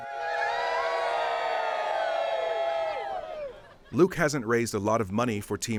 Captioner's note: cheering